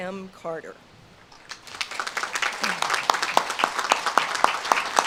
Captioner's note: audience claps